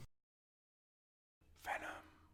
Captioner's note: whispered